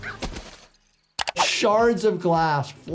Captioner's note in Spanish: clics del ratón